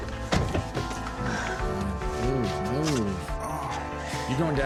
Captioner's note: car horn honks